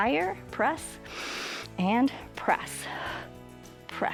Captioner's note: exhales; inhales